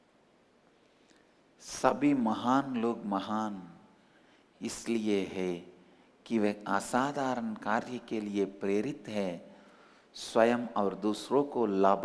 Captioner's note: hindi